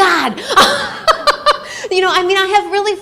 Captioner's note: laughter